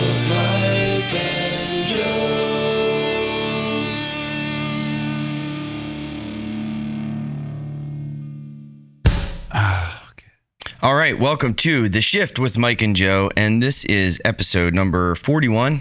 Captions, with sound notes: It's Mike and Joe (sighs) All right, welcome to The Shift with Mike and Joe. And this is episode number 41.